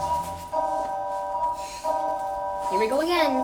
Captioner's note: synthetic voice; alarm blaring